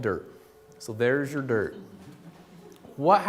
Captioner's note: laughter